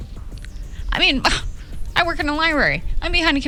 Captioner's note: scoffs